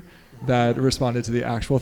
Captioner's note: audience members laughing